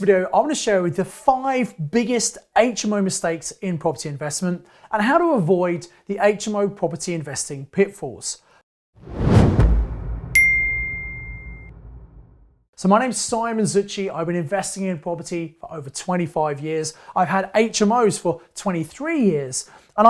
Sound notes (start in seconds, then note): 9.0 air whooshing; 10.3 bell rings